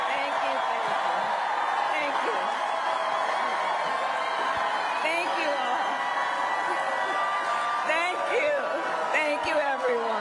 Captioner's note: cheering and applause